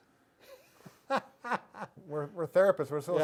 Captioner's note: laughing